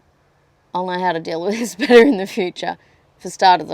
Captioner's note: scoffs